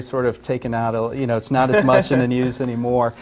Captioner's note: laughs